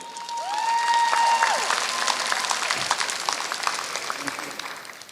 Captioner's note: applause